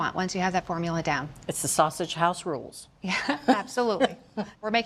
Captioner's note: laughs